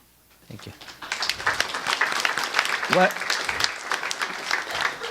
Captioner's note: audience applauds